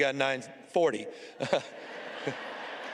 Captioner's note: audience reaction